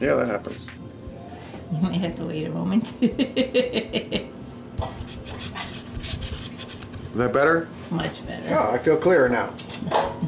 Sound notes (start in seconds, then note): 2.8 camerawoman laughing; 4.8 scratching on glass